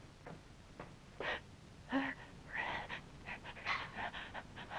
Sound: Bernadette gasping

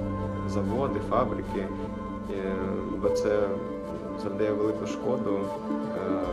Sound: continues speaking Ukrainian

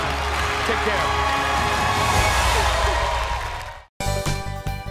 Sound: cheers and applause

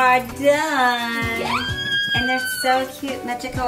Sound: squealing

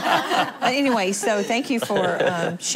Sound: laughing

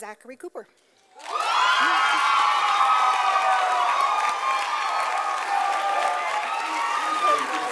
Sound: sound of applause and cheers from audience

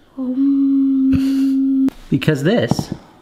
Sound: humming

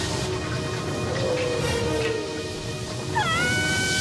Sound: whales singing

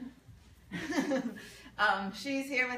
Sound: laughs

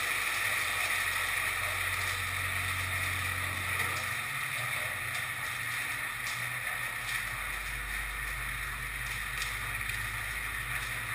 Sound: loud sizzling sound; quiet sizzling sound

